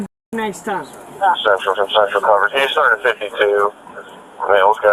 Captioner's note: radio chatter